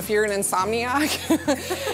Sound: laughs

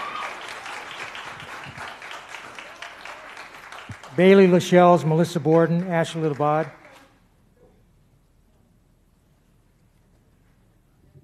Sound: applause

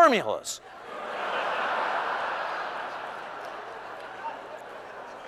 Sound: laughter

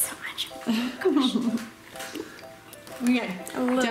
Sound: whispers; laughing

